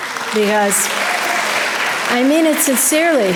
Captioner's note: audience applause